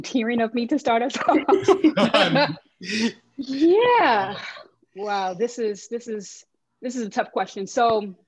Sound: chuckles

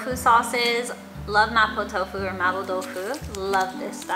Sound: foreign language

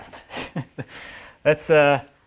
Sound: chuckles

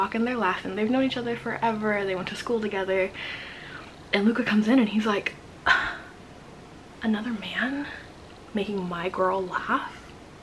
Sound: gasp

